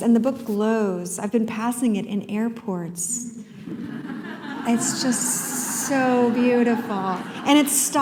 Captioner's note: laughter